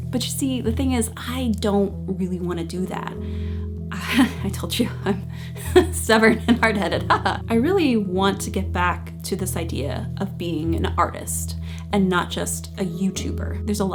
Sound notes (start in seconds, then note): 5.4 chuckles; 7.0 laughs